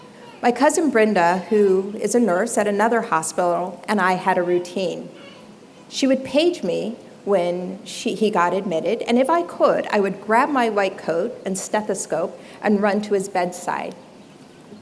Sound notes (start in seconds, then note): none